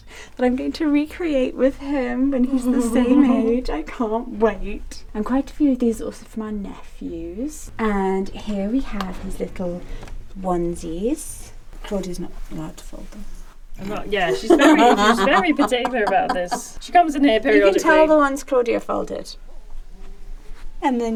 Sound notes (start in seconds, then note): 2.4 chuckles; 14.3 laughs